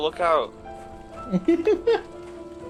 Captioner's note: chuckle